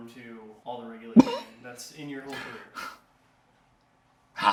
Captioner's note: laughs